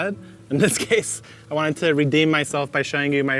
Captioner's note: laughing